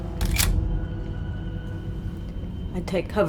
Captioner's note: gun clicking